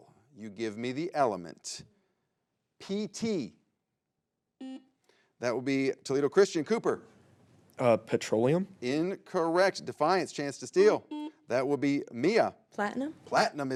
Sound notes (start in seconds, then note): 4.6 buzzer beeps; 11.0 buzzer beeps